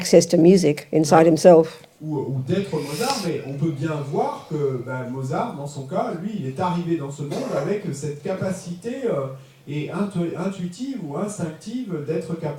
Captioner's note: French